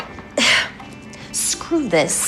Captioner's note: sighing